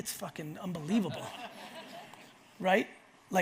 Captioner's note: audience laughs